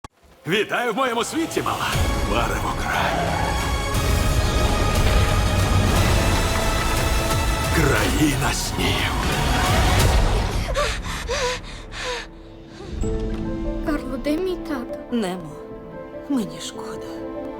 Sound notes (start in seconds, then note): 2.8 tires screech; 3.8 dramatic music playing; 9.6 gasps; 10.2 panting